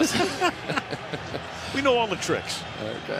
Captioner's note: laughter